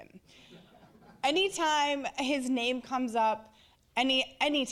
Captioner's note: audience laughing